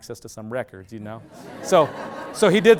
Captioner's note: loud laughter